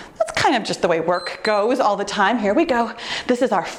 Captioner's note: timer beeps